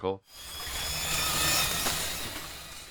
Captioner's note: whirring